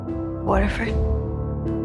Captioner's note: voiceover